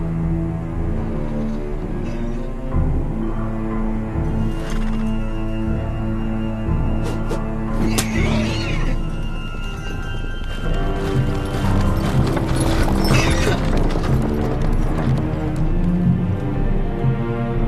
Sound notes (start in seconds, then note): 7.9 whip crack